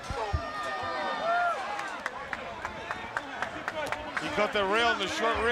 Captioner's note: crowd chatter